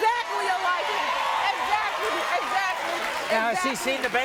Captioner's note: audience cheers